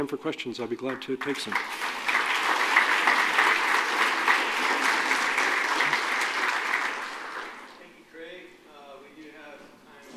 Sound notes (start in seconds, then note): 2.6 applause